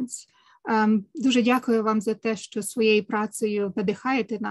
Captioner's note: speaking ukrainian